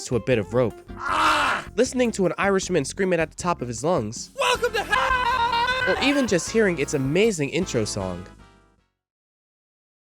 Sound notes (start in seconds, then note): 1.0 PewDiePeePee Noises